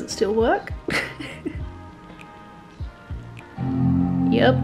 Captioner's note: laughing